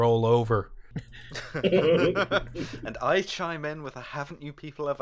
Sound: laughter

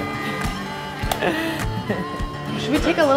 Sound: laughing

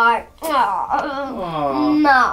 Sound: kissing sounds

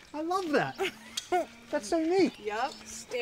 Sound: laughter

